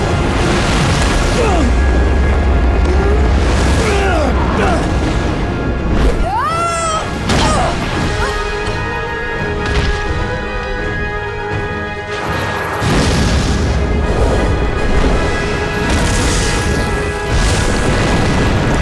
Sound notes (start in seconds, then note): 2.7 grunting; 6.2 screaming; 7.1 grunting